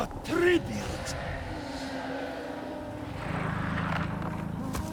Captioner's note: wind blowing